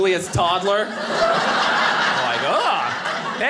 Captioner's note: audience laughing